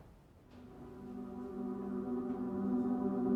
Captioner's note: none